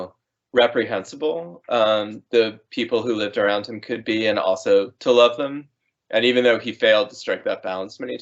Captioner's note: none